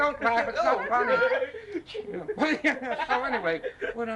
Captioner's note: laughter